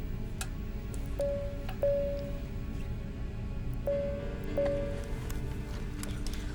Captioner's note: beeping Continues